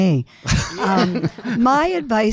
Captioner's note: panel laughing